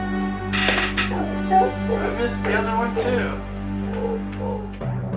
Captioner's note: seal noises